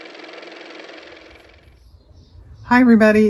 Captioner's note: car motor